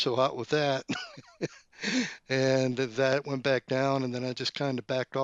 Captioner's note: laughs